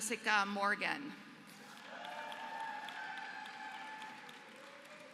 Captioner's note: applause